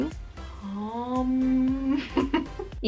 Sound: hummmm; laughs

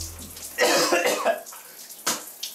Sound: coughs

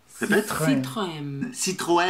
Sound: brazilian pronunciation

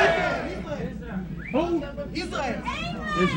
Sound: crowd cheers

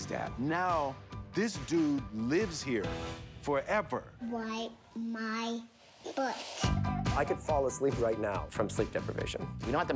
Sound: none

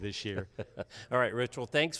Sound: laughs

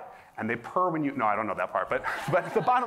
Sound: laughter

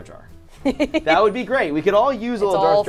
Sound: laughs

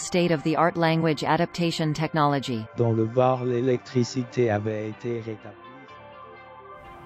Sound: voice in French

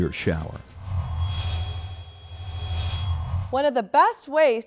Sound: sound Effects

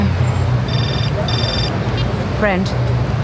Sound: phone ringing

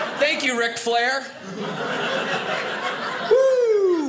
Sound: audience laughing

